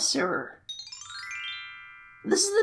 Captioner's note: sparkle Noises